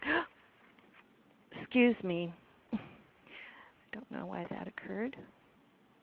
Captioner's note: gasps